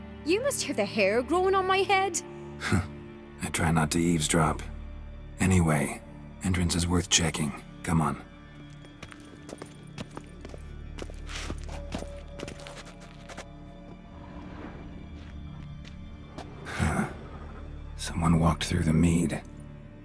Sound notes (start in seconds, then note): 2.5 chuckle